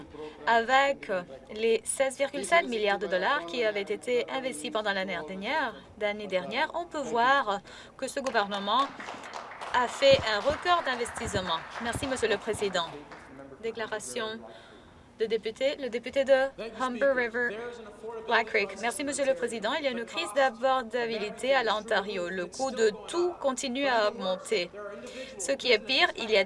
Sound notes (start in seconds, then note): 11.8 applause